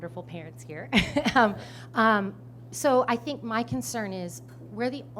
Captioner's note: chuckles